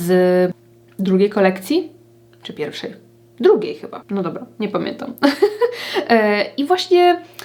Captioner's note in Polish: śmiech